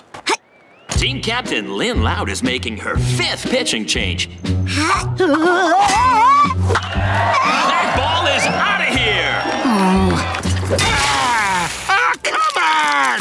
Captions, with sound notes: Team captain Lynn Loud is making her fifth pitching change. [groaning] That ball is outta here! Oh. Ah! Aw, come on!